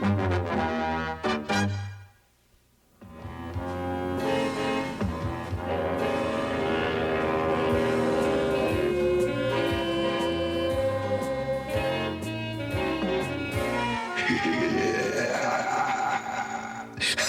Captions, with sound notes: [HORN BLASTING] - HEH HEH HEH HEH!